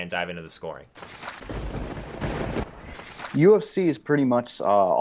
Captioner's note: lightning crashing